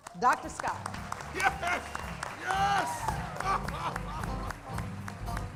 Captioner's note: applause